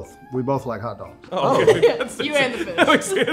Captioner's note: all laughing